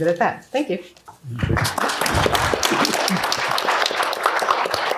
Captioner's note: applause